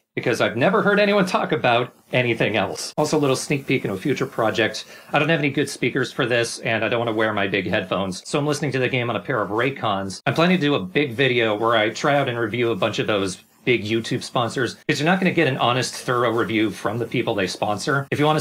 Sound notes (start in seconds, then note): none